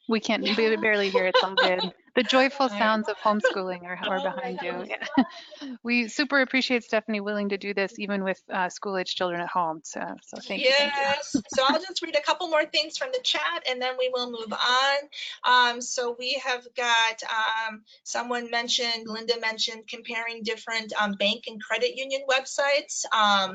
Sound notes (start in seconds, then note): 0.3 laughs; 5.4 laughs